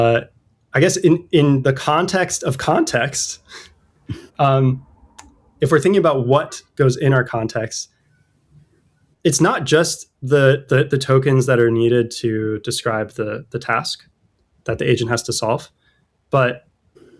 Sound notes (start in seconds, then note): 4.0 throatclearing